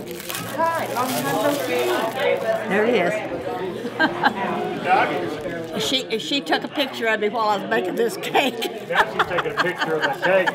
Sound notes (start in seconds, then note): 3.7 chuckles; 8.6 laughs